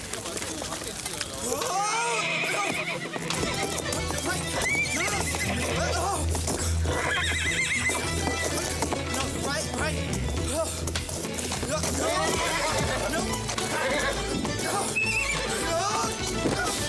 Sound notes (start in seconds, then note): 1.5 horse neighing; 1.5 Nick wailing